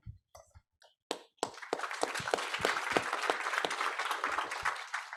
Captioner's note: audience applauds